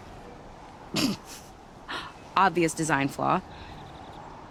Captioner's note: snort